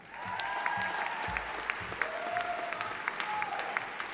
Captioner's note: audience applauding